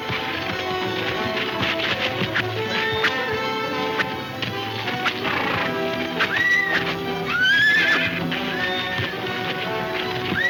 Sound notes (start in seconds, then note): 0.1 whip snapping; 5.2 horse neighing